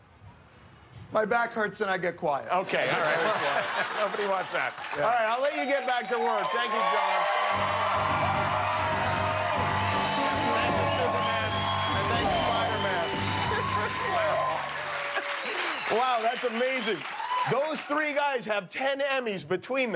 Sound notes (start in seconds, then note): 10.2 cheers and applause